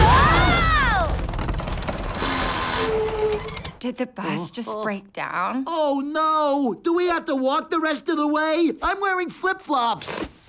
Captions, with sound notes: [all screaming] [brake screeches] -Did the bus just break down? -Uh, uh... Oh, no. Do we have to walk the rest of the way? I'm wearing flip-flops!